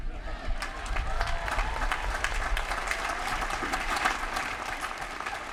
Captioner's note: applause